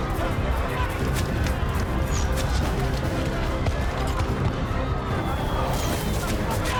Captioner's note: clamoring